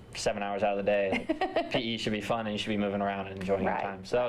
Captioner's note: laughter